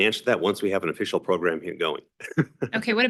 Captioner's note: laughs